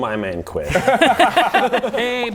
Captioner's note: table laughs